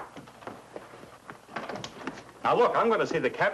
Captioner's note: door opens